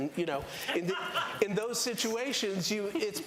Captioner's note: laughter